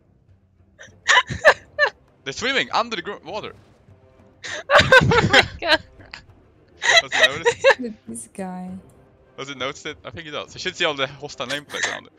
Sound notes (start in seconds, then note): 6.8 haha